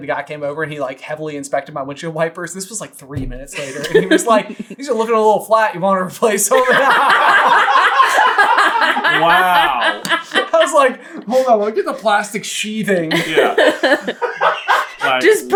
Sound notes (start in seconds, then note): 6.2 team laughter; 13.1 especially cracking up